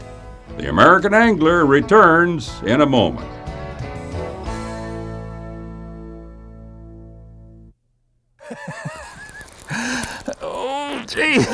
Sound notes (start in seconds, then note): 8.4 laughter